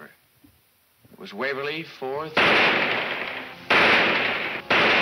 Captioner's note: gunshots banging